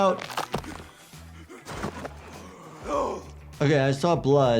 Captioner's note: bones crunch, character groans